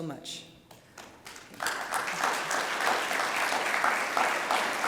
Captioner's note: audience applauding